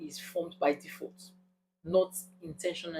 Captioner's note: paause